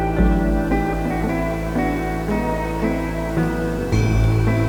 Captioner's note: vacuum humming